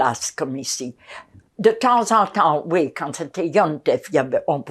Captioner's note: yiddish